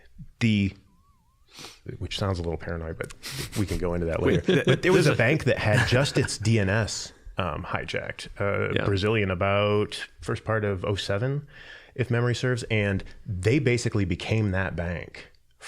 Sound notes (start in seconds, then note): 4.1 chuckling